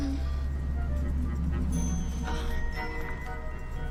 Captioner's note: moaning